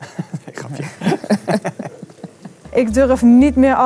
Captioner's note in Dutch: ex-medewerker en lachen